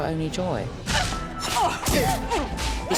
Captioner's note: both grunting